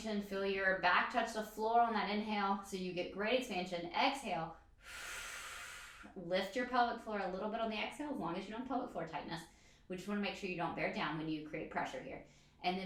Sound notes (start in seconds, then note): 4.7 exhales breath